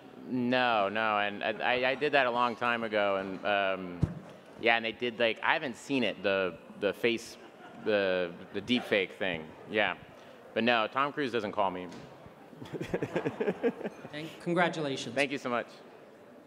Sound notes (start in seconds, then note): 12.6 Bill laughs